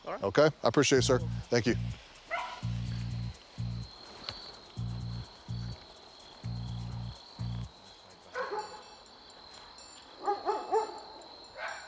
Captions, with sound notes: - All right. - Okay? I appreciate it, sir. Thank you. [crickets chirping] [dogs barking] [curious music]